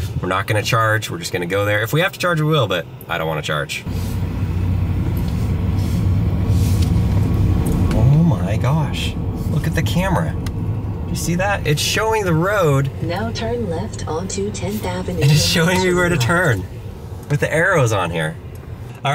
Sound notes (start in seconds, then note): 3.8 car engine revving; 13.1 computerized Voice